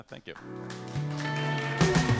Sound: applause

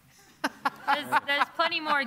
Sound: laughter

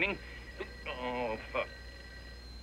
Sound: telephone Rings

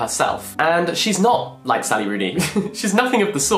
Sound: chuckles

